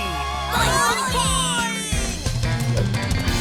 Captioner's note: cheering